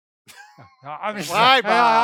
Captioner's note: laughing